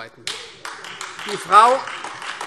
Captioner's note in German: Beifall Freie Demokraten und AfD